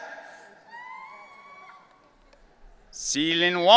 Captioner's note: audience cheering